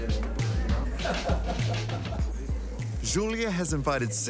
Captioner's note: chuckling